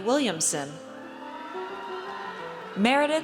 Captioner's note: audience cheers